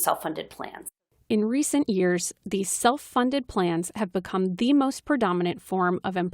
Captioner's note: voice-over